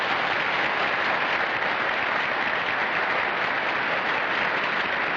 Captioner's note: applause